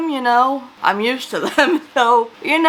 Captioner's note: laughs